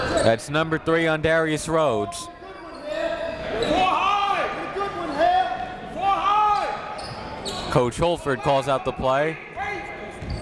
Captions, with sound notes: That's number three on Darius Rhodes. (crowd talking) (coaches yelling) Coach Holford calls out the play.